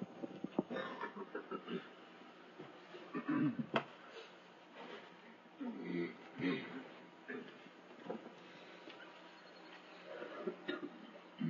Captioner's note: clearing throats